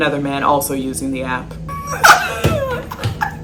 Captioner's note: laughs